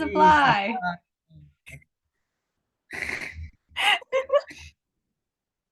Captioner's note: giggles and laughter abound